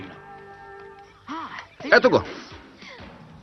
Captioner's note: gasps